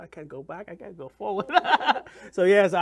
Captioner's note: laughs